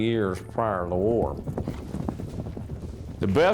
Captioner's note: hooves thudding